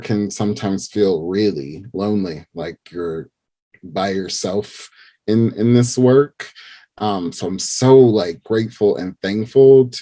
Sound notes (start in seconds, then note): none